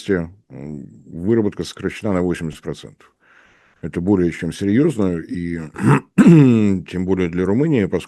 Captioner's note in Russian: кашель; откашливается